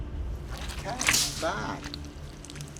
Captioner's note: gelatin squelching